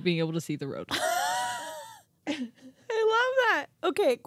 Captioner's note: wheezing